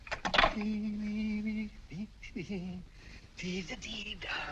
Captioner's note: humming